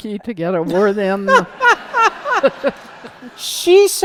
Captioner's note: laughter